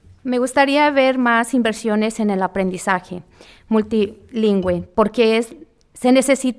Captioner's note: speaking in foreign language